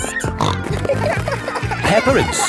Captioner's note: snorting